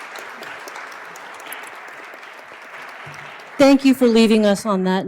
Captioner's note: applause